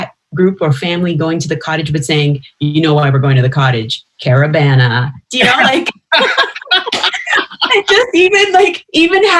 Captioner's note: laughter